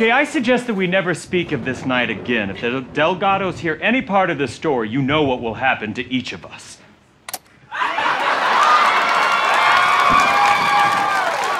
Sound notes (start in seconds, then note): 7.2 recorder clicks; 7.7 audience laughter